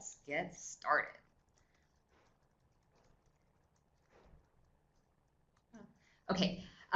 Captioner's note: no sound, waiting for presenter to start